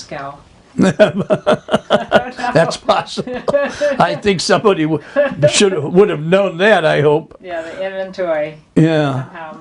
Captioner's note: laughs